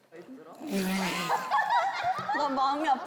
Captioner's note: crack up